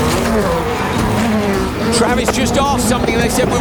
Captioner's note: engine revving